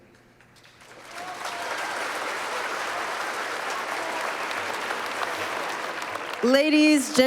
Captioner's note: applause